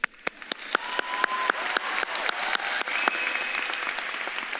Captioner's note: audience claps and cheers